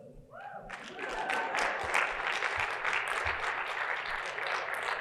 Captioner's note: audience clapping and cheering